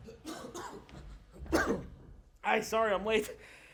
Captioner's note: actor coughing